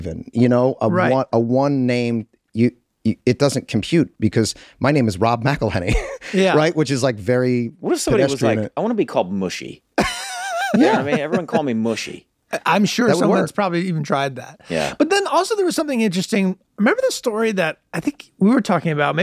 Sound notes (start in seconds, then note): 10.0 Charlie laughs